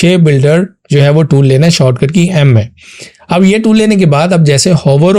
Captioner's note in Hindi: नाक से की जाने वाली आवाज़